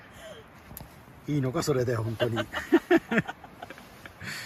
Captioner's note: laughs